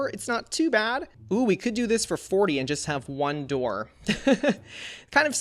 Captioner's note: laughs